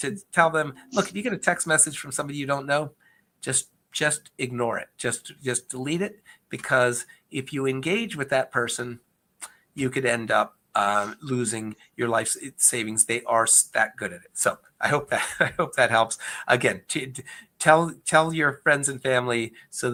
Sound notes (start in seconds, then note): 14.9 chuckles